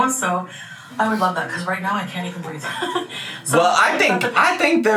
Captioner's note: laughs